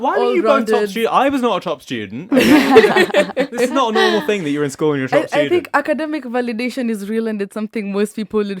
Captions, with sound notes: - Why you both got top student? I was not a top student. (all laugh) It's not a normal thing that you're in school and you're top student. - I think academic validation is real and it's something most people